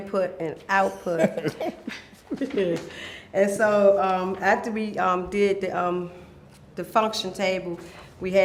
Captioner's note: laughter